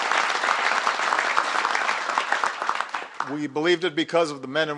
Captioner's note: applause